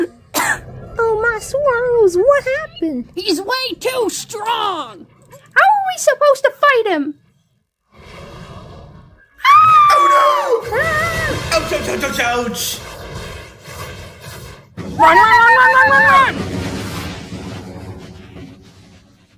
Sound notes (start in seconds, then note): 6.1 Zazel groans; 9.2 Jibanyan yells